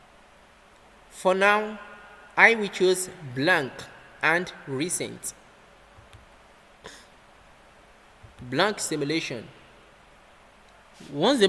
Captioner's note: click